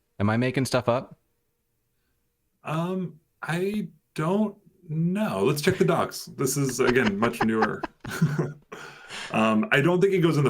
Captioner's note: laughter